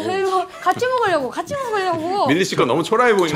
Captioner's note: hurriedly